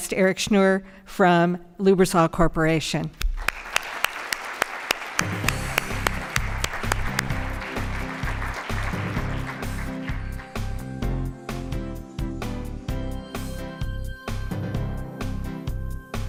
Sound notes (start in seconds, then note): 3.3 applause